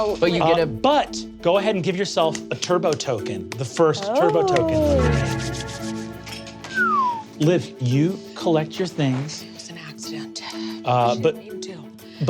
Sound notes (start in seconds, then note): 6.6 whistles